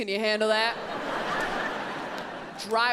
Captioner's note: audience laughs